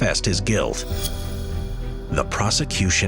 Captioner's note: transition whooshing